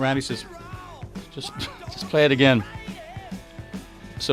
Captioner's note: snicker